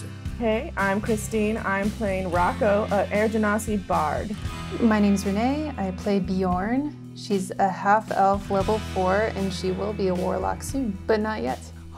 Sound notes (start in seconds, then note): none